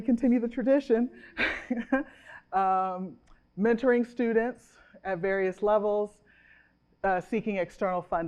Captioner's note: chuckles